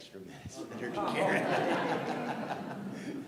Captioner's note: laughter